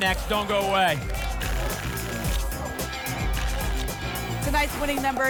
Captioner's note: tickets shuffling